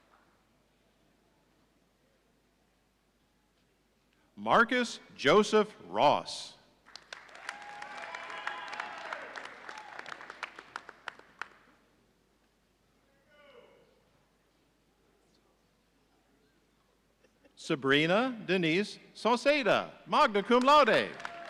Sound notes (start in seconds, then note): 7.2 audience cheering; 20.4 audience applauding